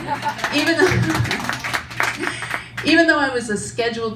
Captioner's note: audience applauds